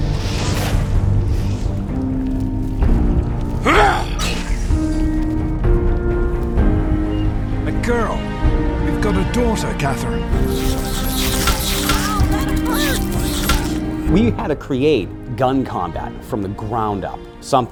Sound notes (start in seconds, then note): 0.0 whooshing; 3.6 game character grunting; 10.3 radroaches chittering